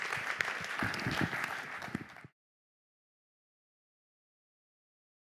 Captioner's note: applause